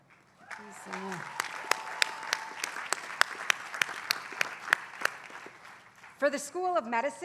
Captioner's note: applause